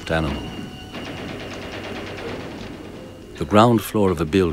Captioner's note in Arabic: إطلاق نار